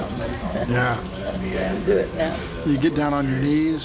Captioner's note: laughs